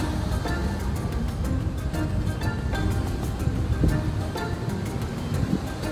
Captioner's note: sound of wind and waves